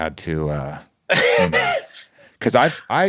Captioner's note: laughing